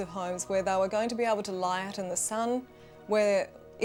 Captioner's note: none